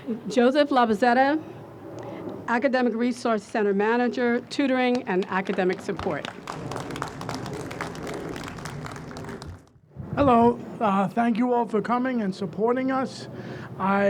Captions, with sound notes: Joseph Labozzetta, Academic Resource Center Manager, Tutoring and Academic Support. (audience applauds) - Hello. Thank you all for coming and supporting us.